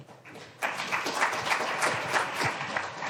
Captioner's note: applause